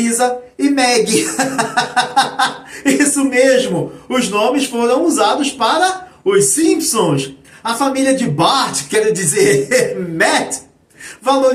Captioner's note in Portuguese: risadas